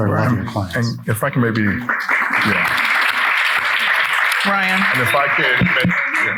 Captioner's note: people clapping